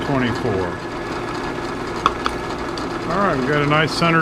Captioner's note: drill whirring